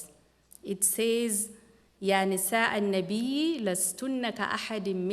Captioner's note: non-english speech